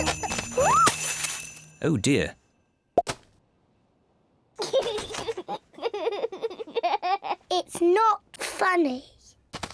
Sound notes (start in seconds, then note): 4.6 giggles